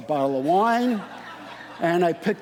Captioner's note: audience laughing